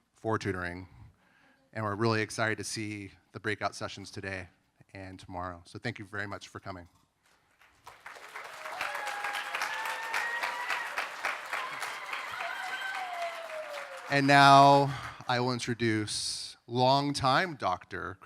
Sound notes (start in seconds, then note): 7.3 applause